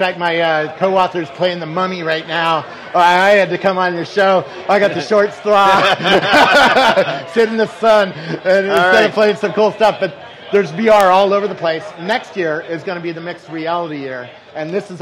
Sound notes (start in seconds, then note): 4.4 laughs